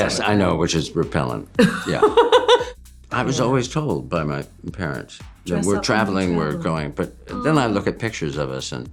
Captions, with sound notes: Yes, I know, which is repellent. Yeah. [LAUGHS] I was always told by my parents-- Dress up when you travel. --when we're traveling, we're going. But then I look at pictures of us,